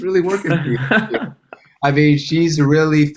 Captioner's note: laughed